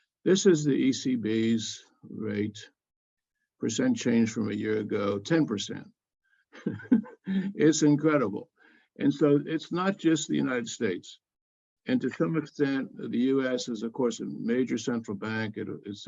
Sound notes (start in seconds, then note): 6.6 laugh